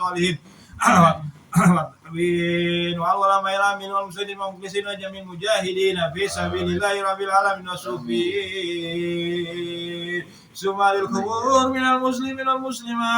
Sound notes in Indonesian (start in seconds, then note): 1.4 berdehem